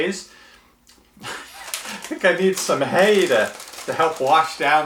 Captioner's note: laughs